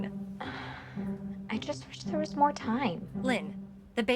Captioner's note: sighs